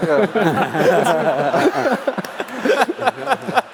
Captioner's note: laughs